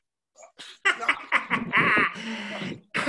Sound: evil laughing

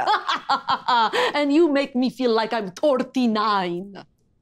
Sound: laughing

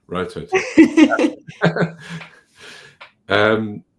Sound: laughing

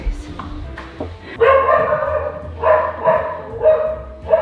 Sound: dog barking

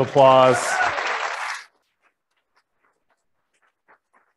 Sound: applauding

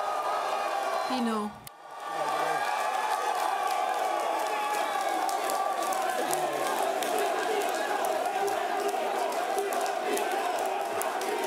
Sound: speaking French; cheering and Applause

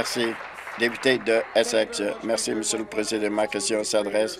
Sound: applause

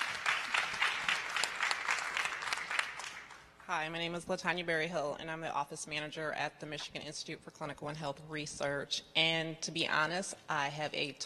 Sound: applause

